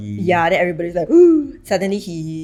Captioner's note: gasps